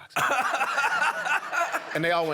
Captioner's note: laughter